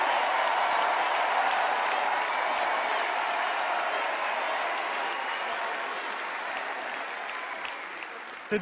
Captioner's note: cheers and extended applause